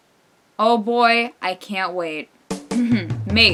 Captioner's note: sarcasm